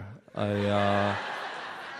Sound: audience laughs

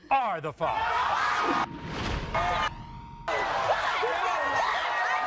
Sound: audience screaming

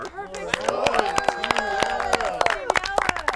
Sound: contestants cheer and applaud

